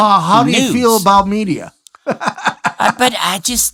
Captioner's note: laughs